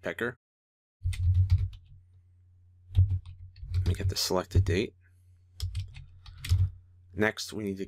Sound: typing

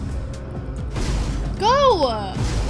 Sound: thump

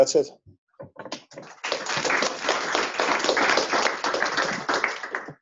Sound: applause

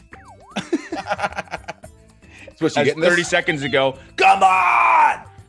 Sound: laugh

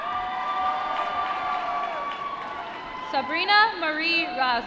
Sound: applause

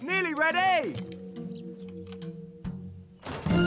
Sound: air blowing

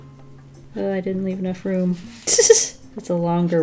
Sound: giggles

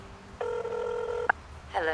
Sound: dialing

